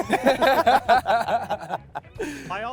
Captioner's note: laughing